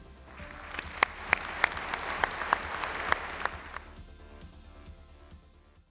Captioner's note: calm music; applause